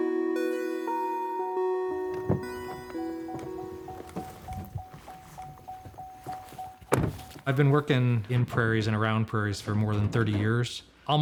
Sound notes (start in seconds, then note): 2.0 car door opening; 4.3 door ajar dinging and rustling; 6.8 door clicking shut and rustling